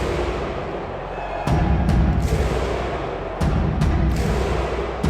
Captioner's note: crowd cheering